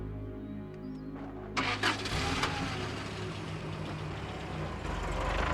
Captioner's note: car starting